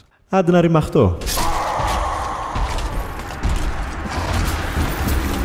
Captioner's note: aaaaaaaaaah